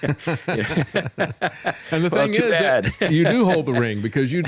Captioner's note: laughs